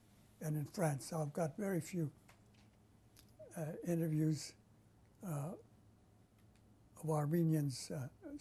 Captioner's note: pauses for 3 seconds